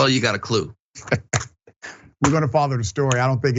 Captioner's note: laugh